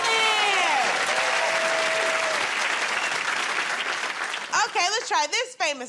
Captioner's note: cheers and applause